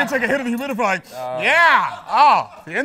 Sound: sniff

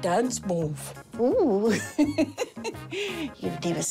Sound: laughs

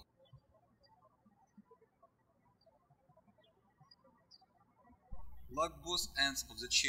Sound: birds chirping

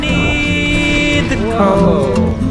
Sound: giggling

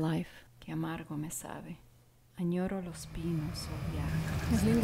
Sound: speaking Spanish

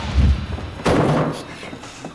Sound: thudding

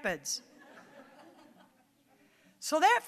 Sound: audience chuckling

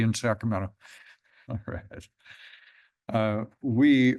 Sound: chuckles

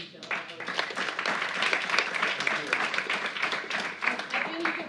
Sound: applause

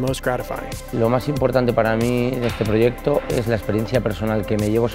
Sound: speaking Spanish

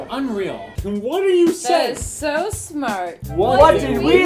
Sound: slurred

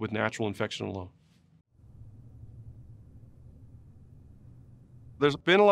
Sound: silence

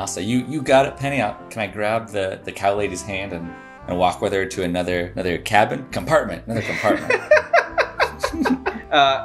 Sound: laughter

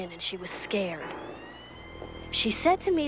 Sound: siren wails

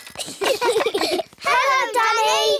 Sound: all giggling

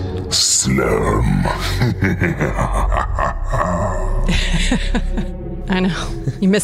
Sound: evil laughter

